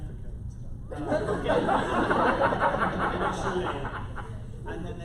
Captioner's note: laughter